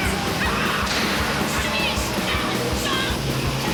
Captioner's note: woman shouting